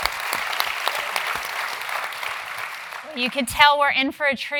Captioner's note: applause